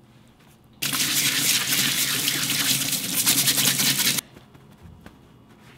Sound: scrubbing

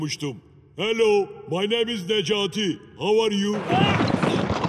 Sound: talks in English

